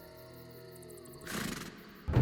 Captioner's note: horse snorts